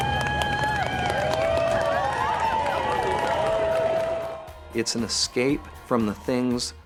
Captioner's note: cheers and applause